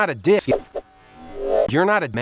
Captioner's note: whoosh